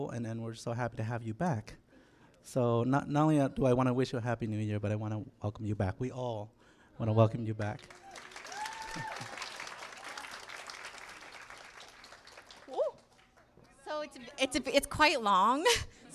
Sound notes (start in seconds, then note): 7.6 applause